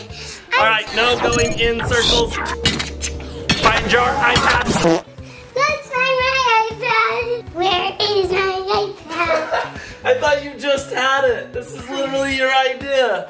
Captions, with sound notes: All right, no going in circles, find your iPad. (fart effect) - Let's find my iPad! Where is my iPad? - (laughs) I thought you just had it! This was literally your idea!